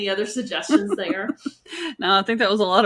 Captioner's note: laughing